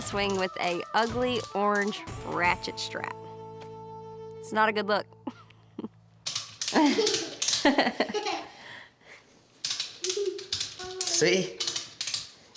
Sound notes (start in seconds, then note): 6.6 chuckling; 6.6 giggling